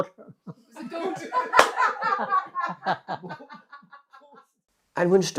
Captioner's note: laughter